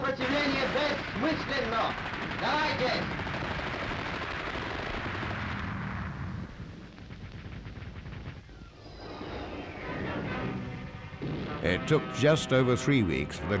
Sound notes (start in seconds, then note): 4.2 guns firing